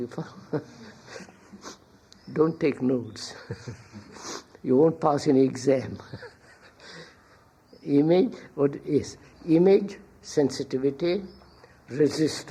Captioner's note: laughs